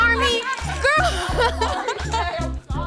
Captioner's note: laughs